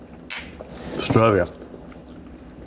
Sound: clank; in foreign language

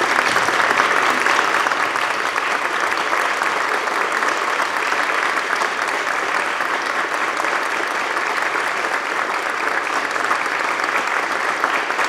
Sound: applause

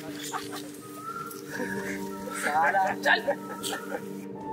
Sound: mocking sounds

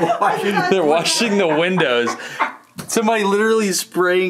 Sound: laughs

